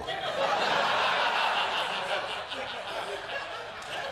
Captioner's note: laughter